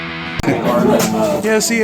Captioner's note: coughing in the background